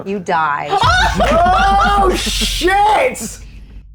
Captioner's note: laughs